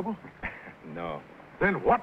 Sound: chuckles

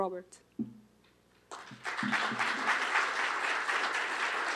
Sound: applause

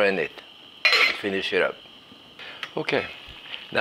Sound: lid clinks

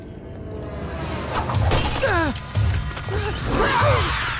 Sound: grunting

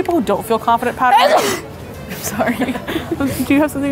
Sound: sneezes

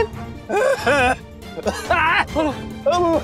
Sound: coughs

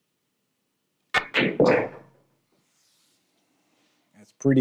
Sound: balls clanging

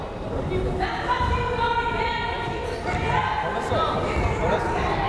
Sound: crowd chattering

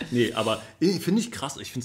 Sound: laughs

